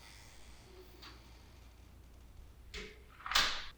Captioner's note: door creaking